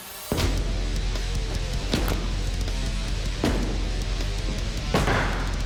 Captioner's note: blade impact sounds